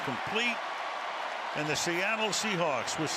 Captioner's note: cheering